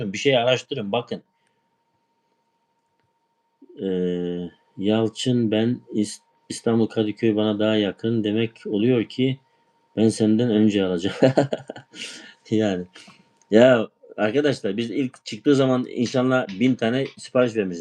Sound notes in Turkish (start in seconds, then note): 11.0 kahkaha